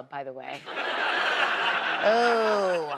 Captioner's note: audience laughs